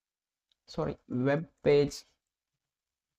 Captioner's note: voice-over in English